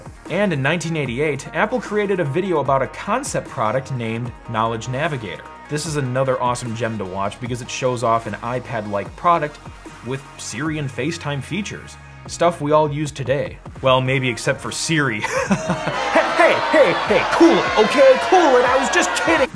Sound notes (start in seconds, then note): 15.2 laughing while crowd boos